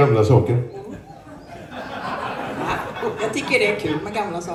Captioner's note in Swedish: skratt